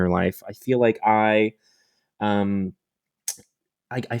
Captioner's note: clicks tongue